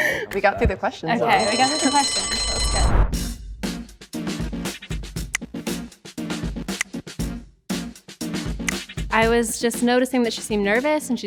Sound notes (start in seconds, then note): 1.2 timer rings; 3.1 upbeat music